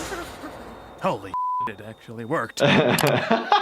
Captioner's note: beep; laughs